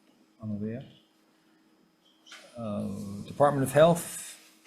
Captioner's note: speaking in foreign language